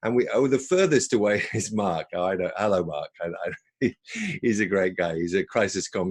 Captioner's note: chuckles